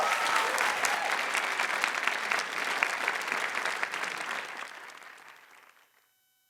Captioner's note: applause